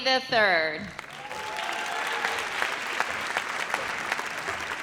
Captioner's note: audience applauds